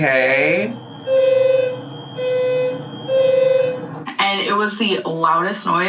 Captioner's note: alarm continues blaring